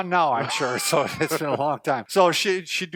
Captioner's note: laughs